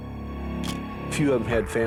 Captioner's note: camera shutter click